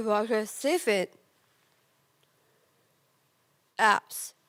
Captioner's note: silent